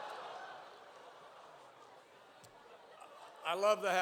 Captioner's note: laughter